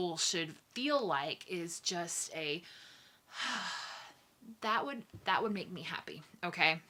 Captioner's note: sigh